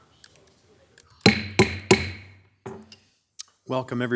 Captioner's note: gavel bangs